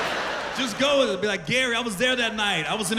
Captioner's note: laughter